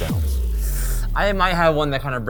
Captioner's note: sucks teeth